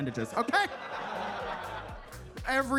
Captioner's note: attendees laughing; upbeat music